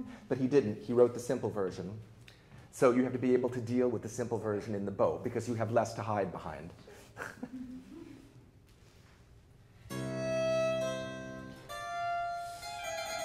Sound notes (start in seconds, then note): 7.1 giggles; 7.2 people laughing; 9.9 baroque string and harpsichord music